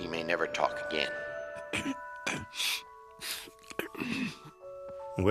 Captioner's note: clearing throat and sniffling